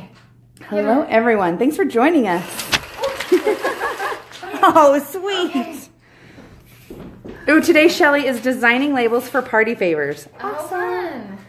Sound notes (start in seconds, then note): 3.0 laughing